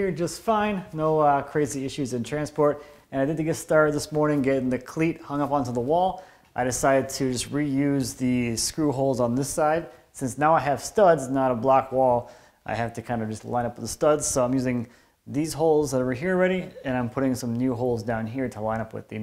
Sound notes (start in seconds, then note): none